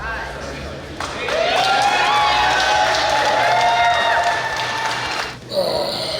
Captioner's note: cheering & Clapping